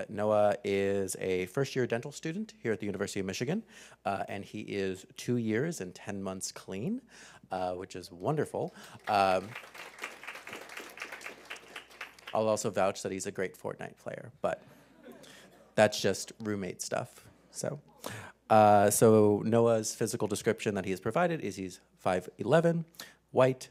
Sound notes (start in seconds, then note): 8.6 applause; 14.6 laugh